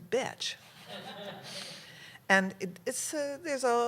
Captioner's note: laughter